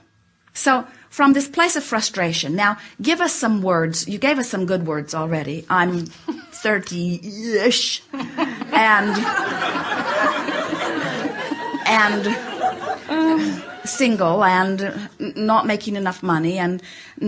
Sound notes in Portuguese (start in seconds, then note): 8.1 o público e a convidada riem